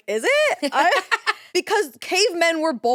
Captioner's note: laughs